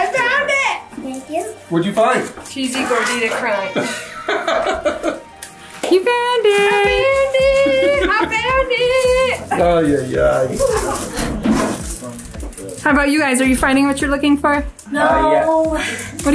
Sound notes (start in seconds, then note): 3.7 laughing